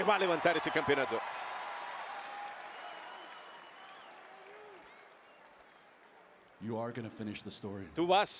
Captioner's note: applause